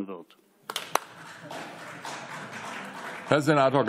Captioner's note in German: Beifall